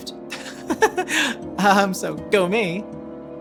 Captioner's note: laughing